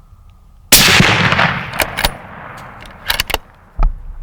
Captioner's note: gun fires